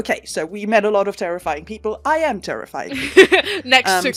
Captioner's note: laughter